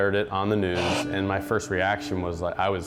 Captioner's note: police radio squelching